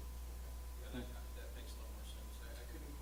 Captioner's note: voiceover